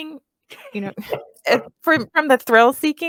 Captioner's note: laughs